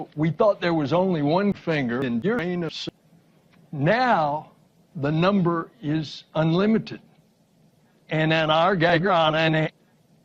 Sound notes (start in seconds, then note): none